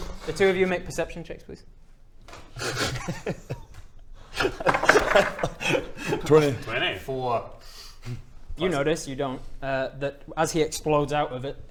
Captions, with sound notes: The two of you make perception checks please *sniggering* *worrying laughter* 20! 4... You notice, you don't, that as he explodes out of it